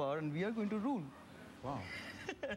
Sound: laughs

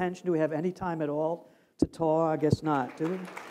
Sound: applause

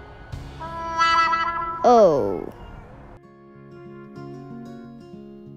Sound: sad Trombone Effect

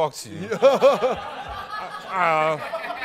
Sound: laughter

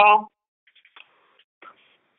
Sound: silence

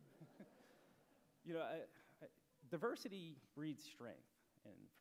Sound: laughter

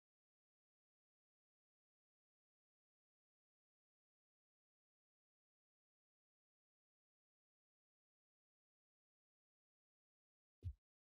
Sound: silence

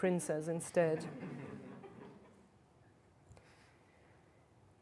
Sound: laughter

